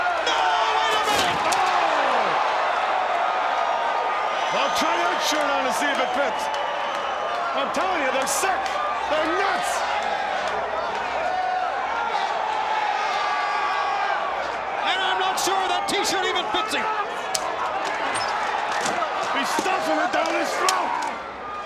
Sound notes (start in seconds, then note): 10.1 crowd cheering